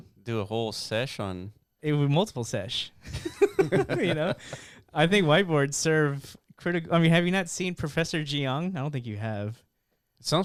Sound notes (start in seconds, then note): 3.1 laughing